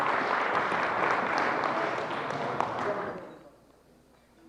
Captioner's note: applause